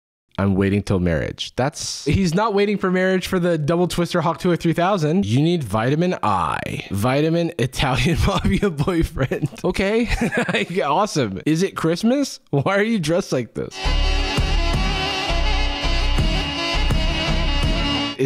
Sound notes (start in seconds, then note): 7.9 laughing